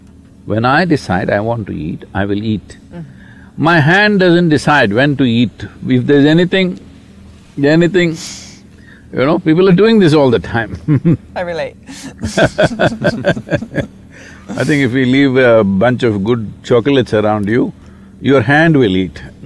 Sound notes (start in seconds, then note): 11.9 laughs; 12.0 laughter